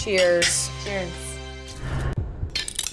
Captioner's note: glasses clinking